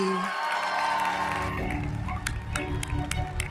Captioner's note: audience cheering; audience applauding; uplifting music